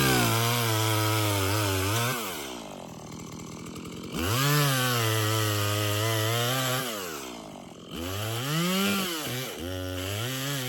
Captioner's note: chainsaw Noise